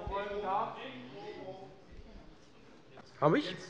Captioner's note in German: Zurufe: Mikro!